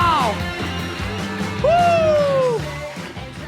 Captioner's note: cheering and whistling